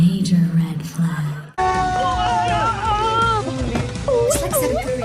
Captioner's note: excited